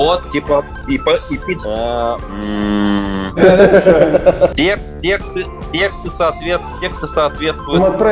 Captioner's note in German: murmelt